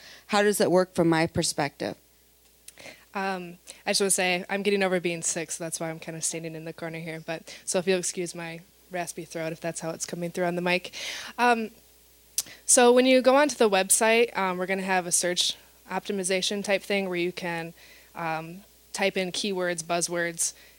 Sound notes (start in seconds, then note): none